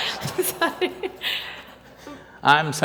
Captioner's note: laughs